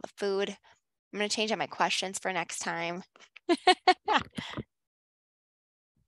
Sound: laughs

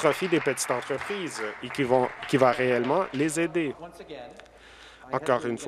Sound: applause

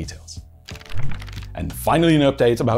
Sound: pages flipping

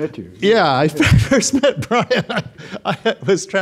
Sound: laughs

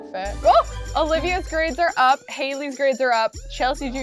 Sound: gasps

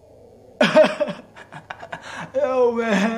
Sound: laughs

